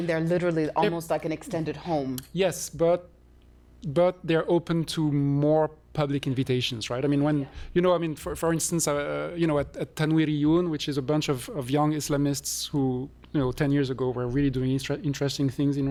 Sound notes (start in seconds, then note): 9.3 non-english